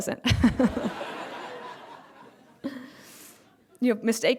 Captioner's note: laughter